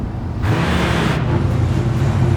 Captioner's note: engine roars